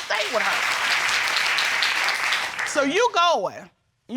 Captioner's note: audience applauding